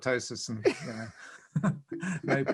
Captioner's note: both laugh